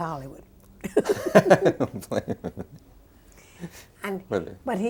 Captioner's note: both laughing